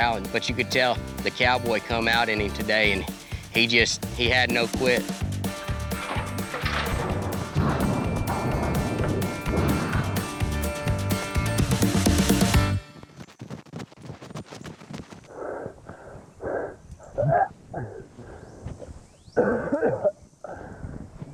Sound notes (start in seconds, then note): 13.0 running steps; 15.3 panting; 17.7 coughing